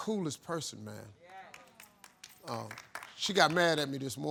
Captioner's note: crowd clapping